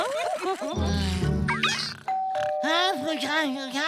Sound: laughing; doorbell ringing

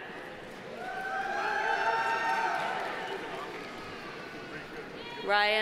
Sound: audience applauding; audience cheering

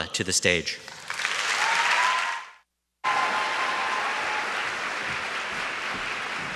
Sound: audience shouts and claps

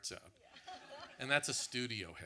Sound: audience laughs

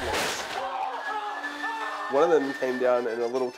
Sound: balloon pops, men shouting

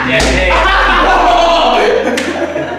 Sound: almost everyone laughs

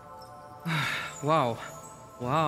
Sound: sigh

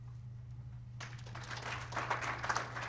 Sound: audience clapping

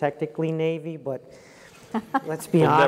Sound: laugh

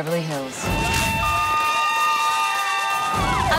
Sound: yelling

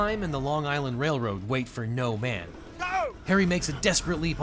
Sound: man yells

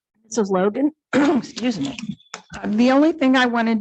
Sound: clears throat

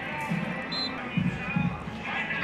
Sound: whistle

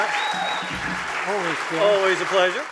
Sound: audience applauding

